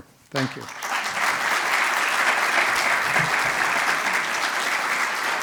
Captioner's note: audience applauds